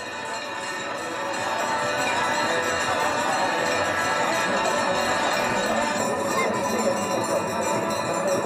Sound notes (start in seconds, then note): 1.6 multiple bell-ringing and religious chanting